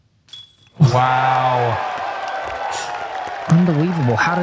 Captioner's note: applause